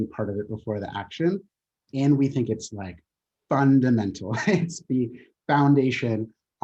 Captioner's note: chuckling